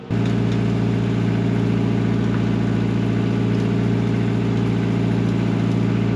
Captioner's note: diesel engine sounds